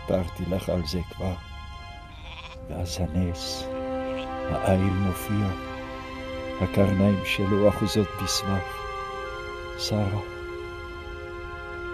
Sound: speaking in Hebrew

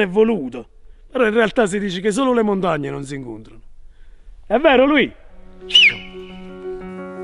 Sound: whistles

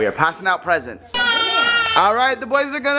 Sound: yells

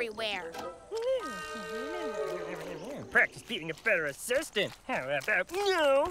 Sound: grumbling

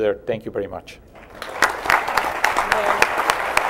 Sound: applause

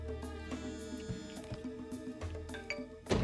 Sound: phone vibrates

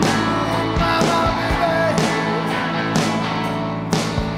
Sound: crowd cheering

